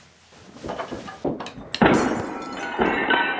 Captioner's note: crash